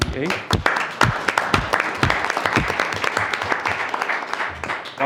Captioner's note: attendees clapping